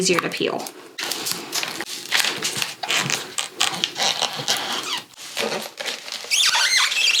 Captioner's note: transfer tape rustling and squeaking